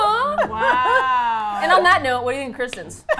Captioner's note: laugh